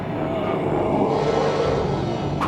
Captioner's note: moaning